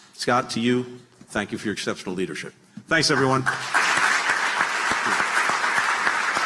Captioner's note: applause